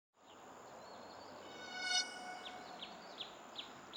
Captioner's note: birds chirping